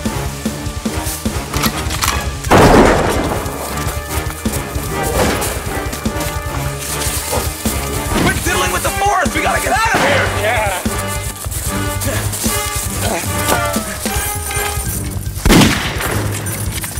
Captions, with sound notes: (gun cocking and firing) (action music) - Quit didling with the forest, we gotta get out of here. (gun shot firing) - Yeah. (suspense music) (gun shot firing)